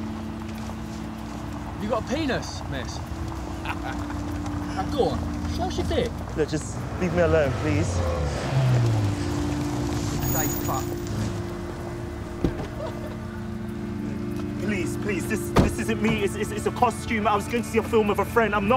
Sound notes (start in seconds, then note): 3.5 laughing; 12.5 laughing